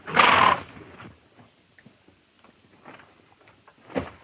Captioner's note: horse snorts